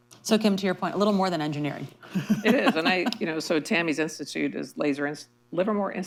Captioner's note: laughter